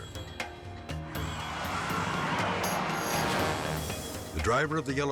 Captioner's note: tires screeching